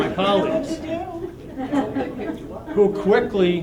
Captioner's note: laughter